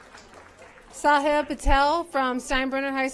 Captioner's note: applause